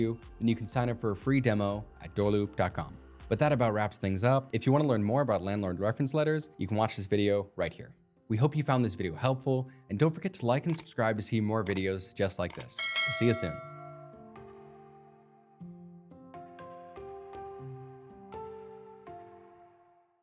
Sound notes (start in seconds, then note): 12.6 bell dings; 15.0 upbeat music